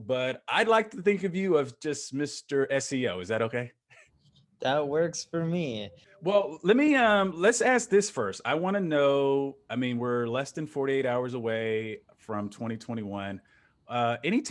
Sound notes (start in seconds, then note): 3.8 chuckles